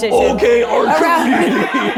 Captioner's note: crew chuckling